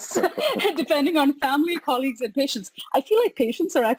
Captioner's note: laughs